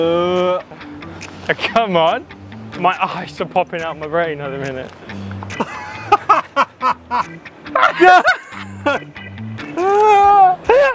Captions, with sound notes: - Ugh. - Come on. My eyes are popping out my brain at the minute. (both laughing)